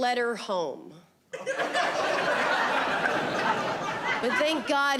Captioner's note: audience laughing